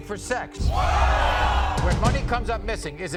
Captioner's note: audience oohs